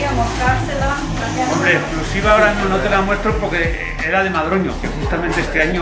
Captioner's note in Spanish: Voces de trasfondo